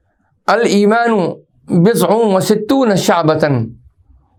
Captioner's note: arabic